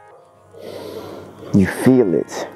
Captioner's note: man inhaling